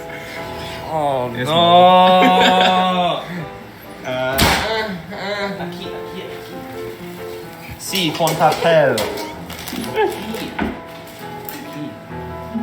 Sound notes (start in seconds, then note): 9.8 laughing